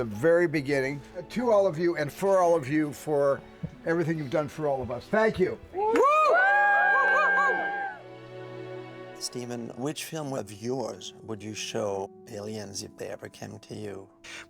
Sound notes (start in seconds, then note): 5.8 cast, crew cheering